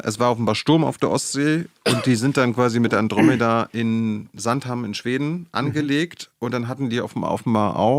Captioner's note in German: räuspern